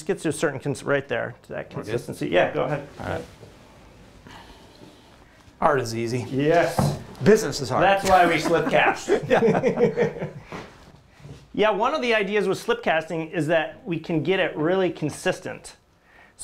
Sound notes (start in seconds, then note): 8.0 laughter